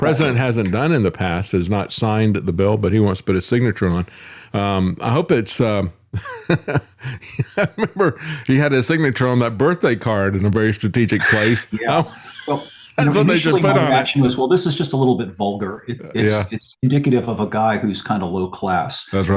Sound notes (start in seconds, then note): 6.2 laughs